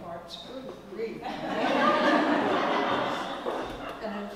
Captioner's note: laugh